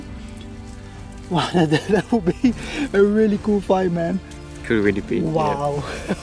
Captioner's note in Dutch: lacht